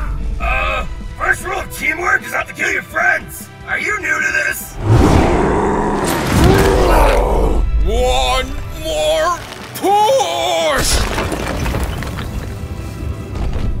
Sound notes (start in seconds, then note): 5.9 teamkilling Fucktard Noises